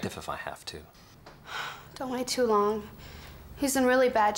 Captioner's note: Liz sighs